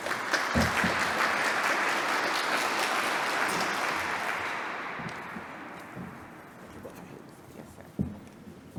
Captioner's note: applause